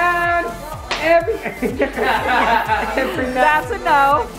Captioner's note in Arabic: يضحك الجميع